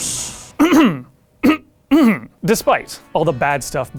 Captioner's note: coughs